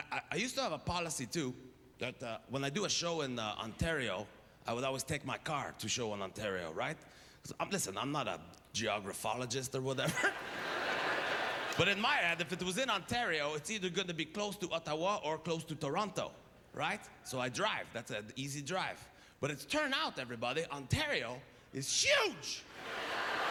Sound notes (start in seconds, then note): 10.1 audience laughter